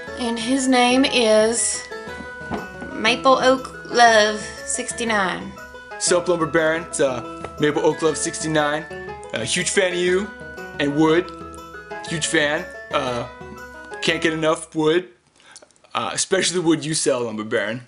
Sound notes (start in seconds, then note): none